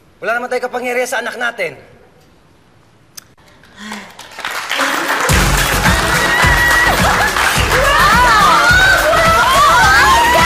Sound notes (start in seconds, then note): 3.2 clicks tongue; 3.8 people clapping, cheering